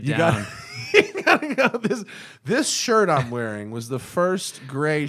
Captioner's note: laughter